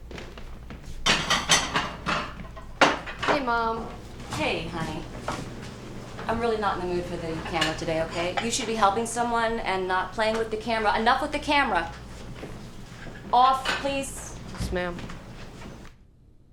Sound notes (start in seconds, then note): 1.2 knocking